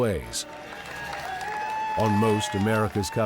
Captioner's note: crowd cheering